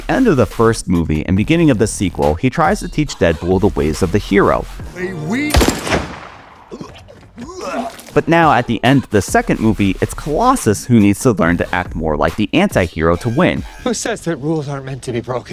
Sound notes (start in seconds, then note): 5.5 gunshot - Puking